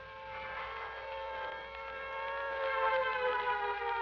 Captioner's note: siren wailing